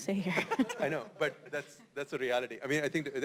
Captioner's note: laugh